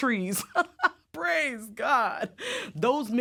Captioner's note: laughs